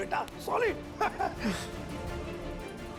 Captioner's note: chuckling